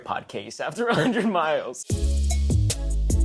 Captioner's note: chuckles; hip hop music continues